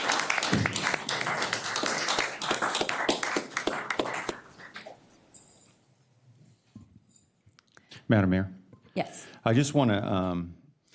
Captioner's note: applause